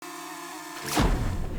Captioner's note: drone buzzing; drone splashing